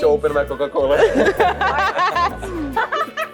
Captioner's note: laughs in Russian; Laughs in Macedonian